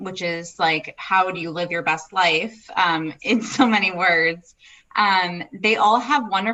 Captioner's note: laughs